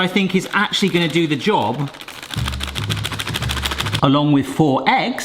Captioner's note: packet crinkles